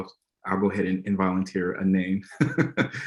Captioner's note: laughs